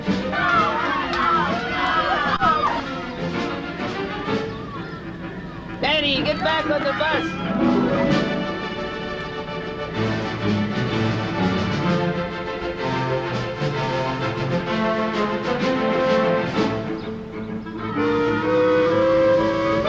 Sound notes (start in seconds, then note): 0.2 children on bus cheer